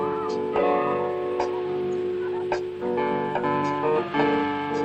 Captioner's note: kids shrieking happily